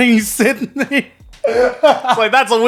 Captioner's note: laughing